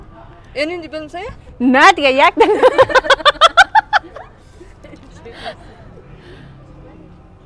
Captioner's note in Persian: خنده